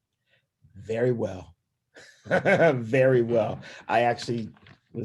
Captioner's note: laughing